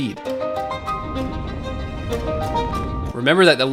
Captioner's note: rocket humming